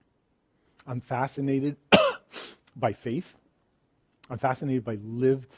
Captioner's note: coughs